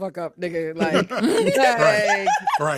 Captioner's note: laughing